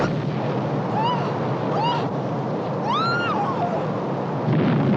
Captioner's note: explosion, wind, woman screaming; loud blast